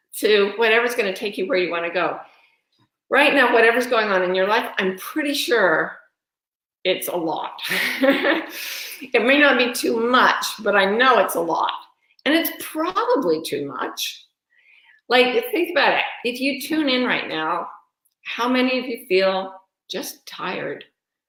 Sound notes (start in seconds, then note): 8.2 laughs